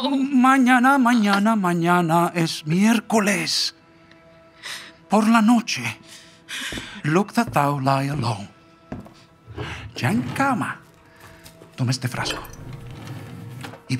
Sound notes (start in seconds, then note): 8.4 footsteps; 9.9 drawer opening; 12.2 drawer closing